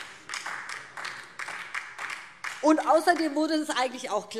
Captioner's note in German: Beifall DIE LINKE